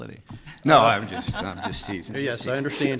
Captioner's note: laughs